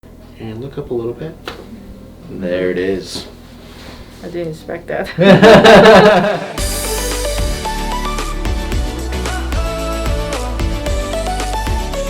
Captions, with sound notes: - And look up a little bit. (neck cracks) There it is. - I didn't expect that (laughing)